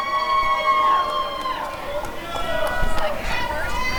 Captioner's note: applause and cheering